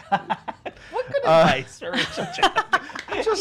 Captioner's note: laughing; laughing